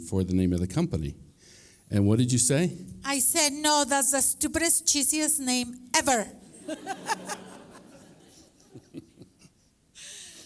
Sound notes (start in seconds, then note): 6.5 laughter